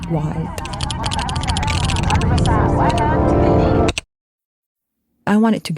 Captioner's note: people chattering; dramatic music